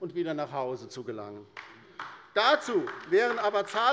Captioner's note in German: Beifall bei der LINKEN